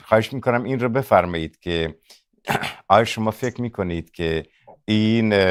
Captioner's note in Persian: گلویش را صاف می‌کند